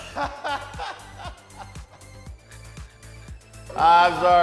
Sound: laughing

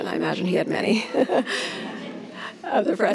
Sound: laughs

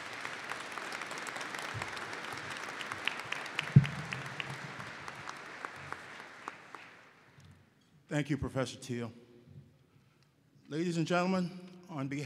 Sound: applause

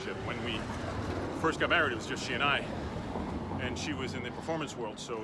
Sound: none

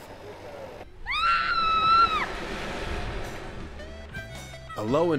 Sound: girl yells as she is lowered down

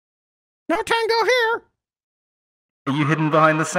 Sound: squeeky voice

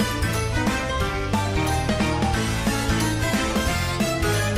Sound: none

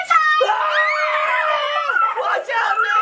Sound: everyone screams

